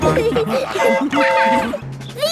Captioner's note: train whistle toots